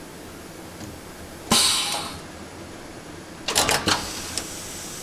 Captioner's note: hissing, clicking